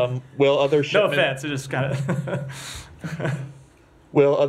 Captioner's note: laughter